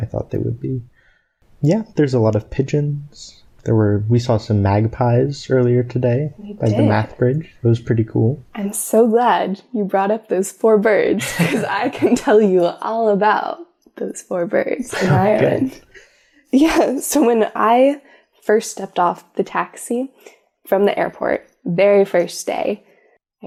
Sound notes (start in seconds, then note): 11.2 both laugh